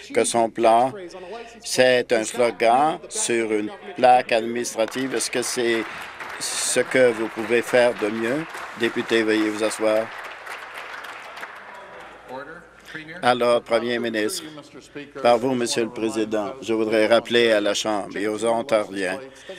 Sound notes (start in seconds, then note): 10.9 some Applause